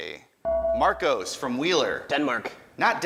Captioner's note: ding